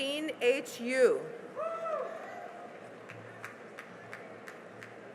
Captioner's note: cheering and applause